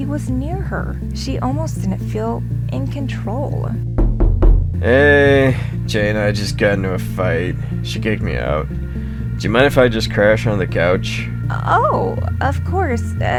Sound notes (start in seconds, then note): 3.9 knocking